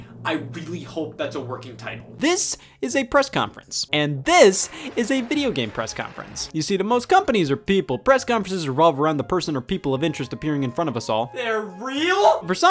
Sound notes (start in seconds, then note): 4.4 applause